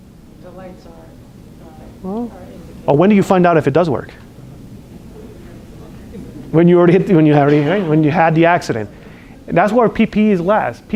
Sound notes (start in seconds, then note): 5.0 classroom chatter